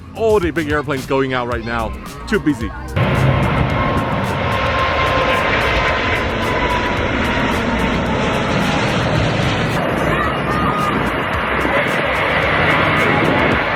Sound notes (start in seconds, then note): 4.1 plane engines roaring; 10.6 children cheering